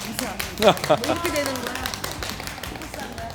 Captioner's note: applause